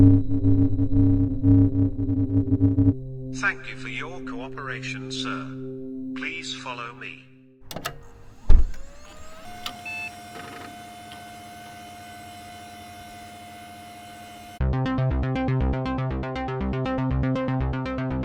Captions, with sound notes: (scanner hums) Thank you for your cooperation, sir. Please follow me. (car clicks and whirs) (car bleeps) (mechanisms click) (brooding synth music)